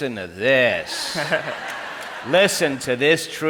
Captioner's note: crowd laughs